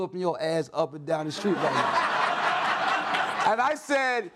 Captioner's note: audience laughs